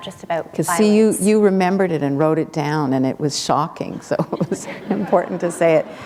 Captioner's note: chuckle